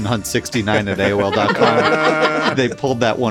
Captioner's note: everybody laughs